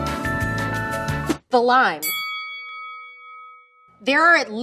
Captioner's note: bell dings